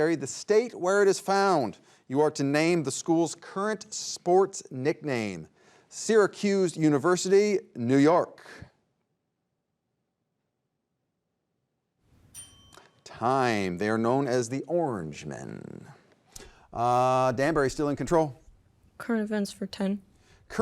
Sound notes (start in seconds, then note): 12.2 timer dinging